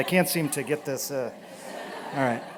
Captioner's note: laughter